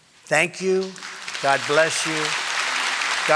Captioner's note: applause